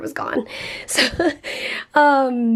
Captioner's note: chuckling